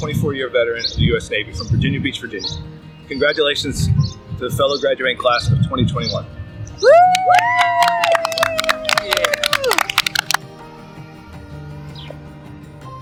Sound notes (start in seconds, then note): 6.8 cheering and applause